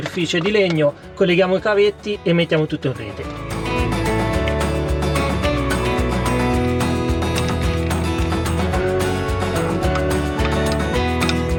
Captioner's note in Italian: Applauso